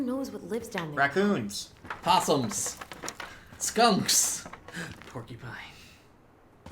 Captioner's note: gasp